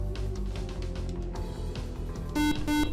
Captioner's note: beep